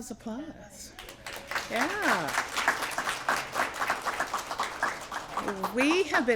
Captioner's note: applause